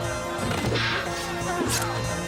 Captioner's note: metal clanging